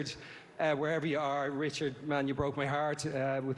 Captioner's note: none